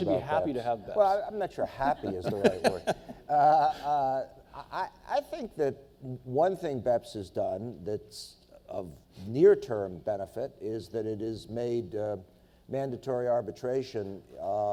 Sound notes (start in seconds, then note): 2.7 panelists laughing